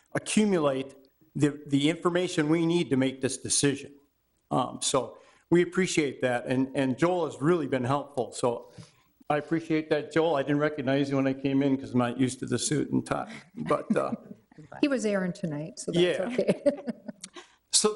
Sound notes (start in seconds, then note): 13.2 all chuckling; 16.0 chuckling